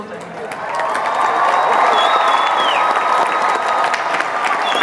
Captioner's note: crowd cheering